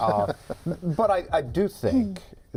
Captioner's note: laughter